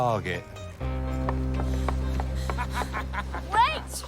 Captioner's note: panting; laughs